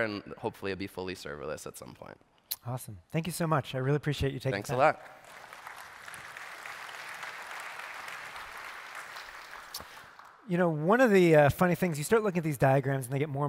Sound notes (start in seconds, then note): 4.6 applause